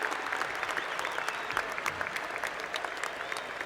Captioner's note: cheers and Applause